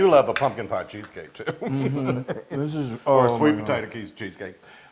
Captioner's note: laugh